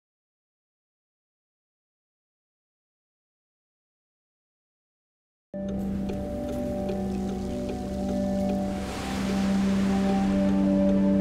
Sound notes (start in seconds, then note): 5.5 waves crashing; 5.5 somber music